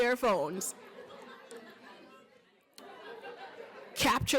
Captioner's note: chatter